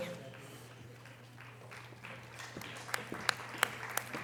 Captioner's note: audience applause